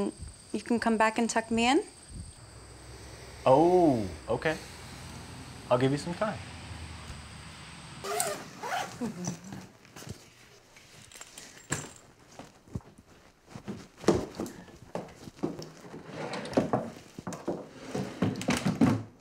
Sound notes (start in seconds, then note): 8.0 luggage zippers; 14.0 footsteps; 16.0 doors sliding and shutting